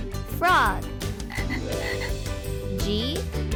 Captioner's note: frog croaks